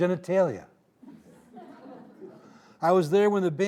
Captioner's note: audience laughing